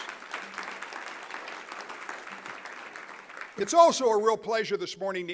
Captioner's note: applause